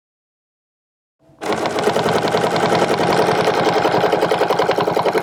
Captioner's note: machine whirring